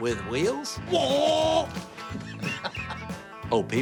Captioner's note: imitating engine; laughs